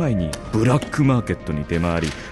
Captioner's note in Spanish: pasos; portafoleos abriendose; pasos; portafoleos abriendose